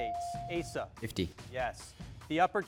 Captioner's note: bell dings